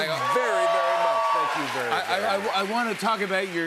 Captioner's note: cheers and applause